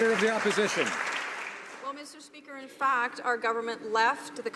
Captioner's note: some Applause